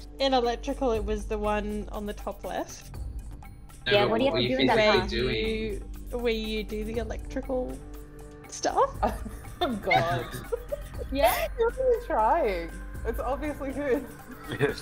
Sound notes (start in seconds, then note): 9.0 laughing; 10.6 all laughing